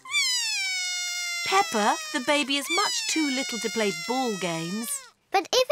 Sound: bawls

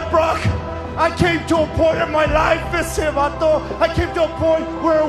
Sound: speaks foreign language

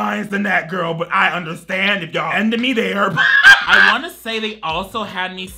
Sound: laughs

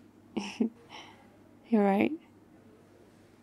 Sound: laughs

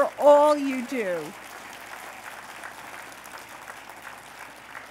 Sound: applause

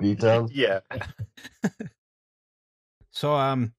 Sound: laughter

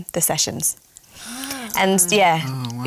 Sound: gasping

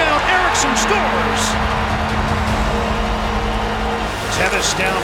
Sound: crowd cheering

